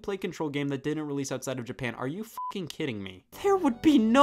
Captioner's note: beeps